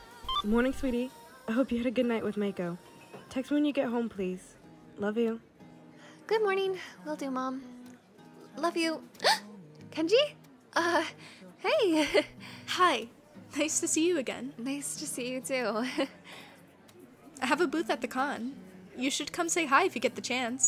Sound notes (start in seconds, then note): 9.2 gasps; 11.0 gulp